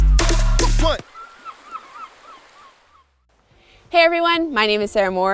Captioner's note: nature sound